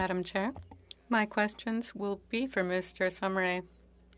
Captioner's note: speaking French